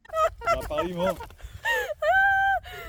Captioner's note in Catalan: Riures feliços bojos